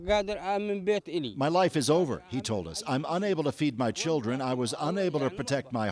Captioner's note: speaking alternate language